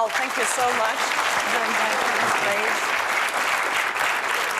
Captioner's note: applause